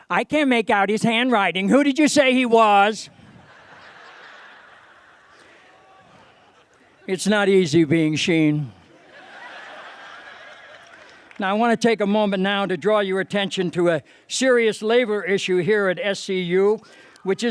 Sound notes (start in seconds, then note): 3.2 laughter; 8.9 laughter